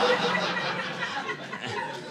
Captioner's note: audience laughing